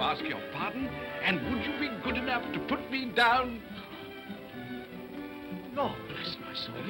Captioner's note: whispers